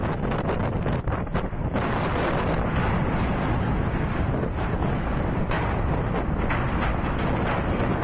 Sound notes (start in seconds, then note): 1.8 containers clattering; 1.9 wind roaring